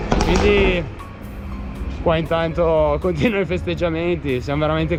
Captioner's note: popping exhaust